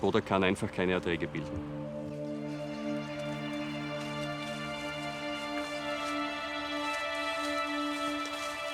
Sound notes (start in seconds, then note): 2.2 birds chirping; 3.6 dramatic music